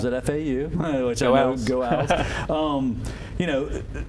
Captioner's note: laughter